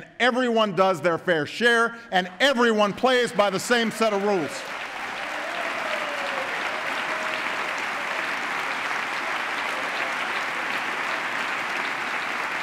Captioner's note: applause